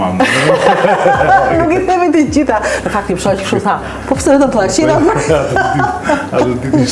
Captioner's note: laughs